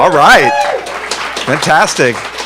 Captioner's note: audience applauding